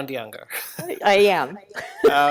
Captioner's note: laughs; chuckles